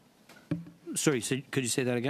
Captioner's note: speaking French